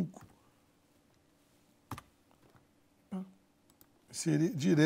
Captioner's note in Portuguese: ruídos do teclado